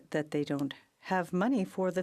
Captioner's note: speaking French